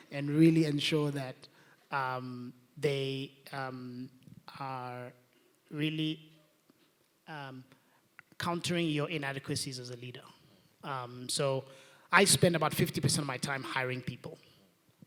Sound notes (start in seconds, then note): none